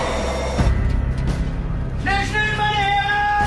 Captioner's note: Човек вика на немски